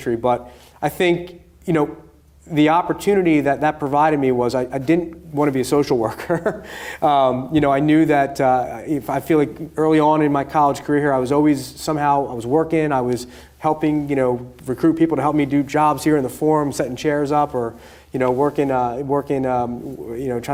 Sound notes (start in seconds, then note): 6.6 laughing